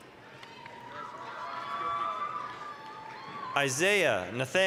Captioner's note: applause, cheering